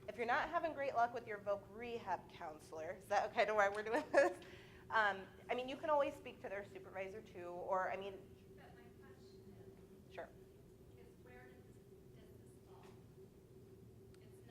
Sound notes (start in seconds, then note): 5.1 laugh